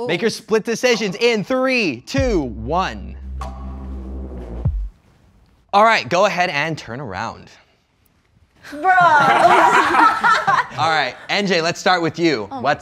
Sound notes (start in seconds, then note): 2.1 plunky music notes; 9.0 all laughing